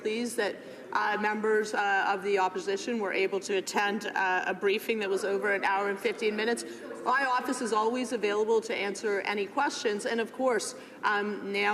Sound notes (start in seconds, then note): none